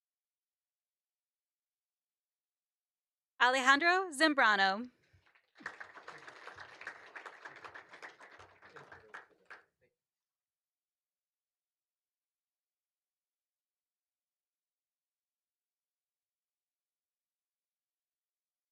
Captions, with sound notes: Alejandro Zambrano. [APPLAUSE]